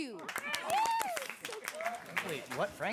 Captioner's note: applause, excited chatter